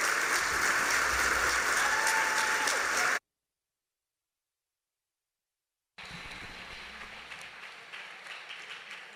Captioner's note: cheers, applause